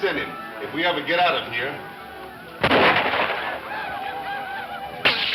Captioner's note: incessant shooting